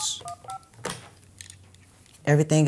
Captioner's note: phone beeping